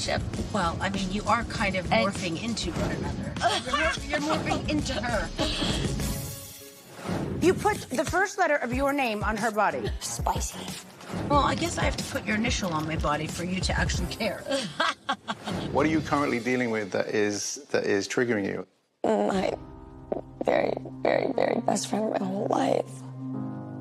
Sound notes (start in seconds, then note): 3.4 Kyle laughs; 14.5 laughs